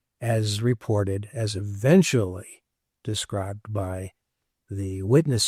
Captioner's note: none